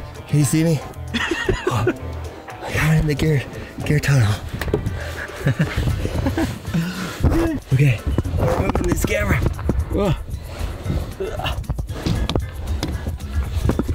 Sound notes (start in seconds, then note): 1.1 laughs